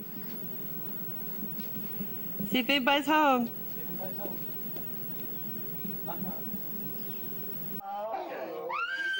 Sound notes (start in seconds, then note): 6.1 knock knock; 8.4 sound of crying